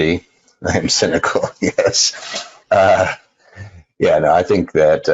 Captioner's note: laughs